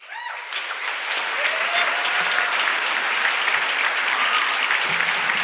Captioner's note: applause and shouting